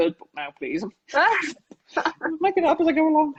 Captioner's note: laughs